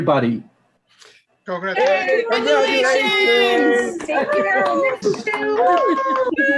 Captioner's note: group shouting congratulations